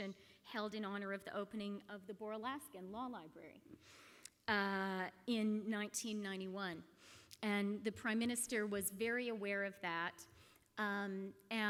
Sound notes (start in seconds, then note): none